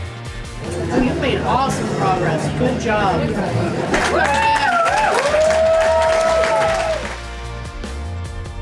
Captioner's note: crowd applause